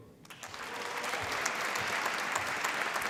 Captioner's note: applause